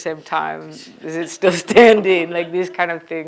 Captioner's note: audience laughing